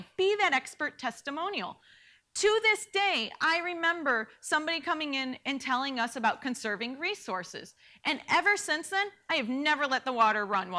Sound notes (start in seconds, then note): none